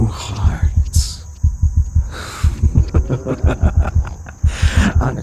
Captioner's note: laugh